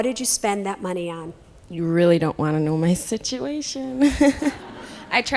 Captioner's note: laughs